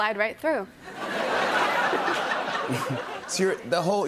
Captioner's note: laughter